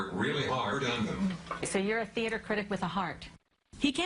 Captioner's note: voiceover